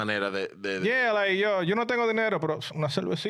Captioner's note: speaking In Foreign Language